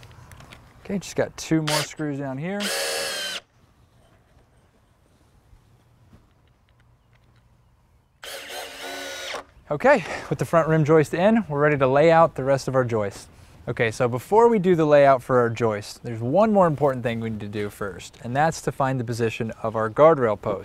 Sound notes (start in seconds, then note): 2.5 drill whirring, no additional audio